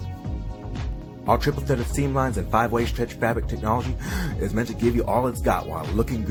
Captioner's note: gasp